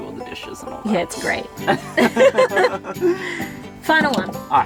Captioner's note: laughing